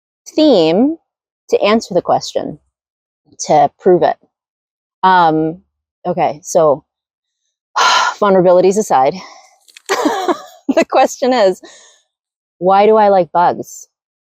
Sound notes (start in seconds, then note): 6.3 sighs